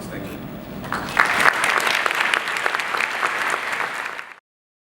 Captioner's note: applause